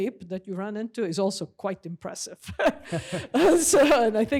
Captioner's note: laughs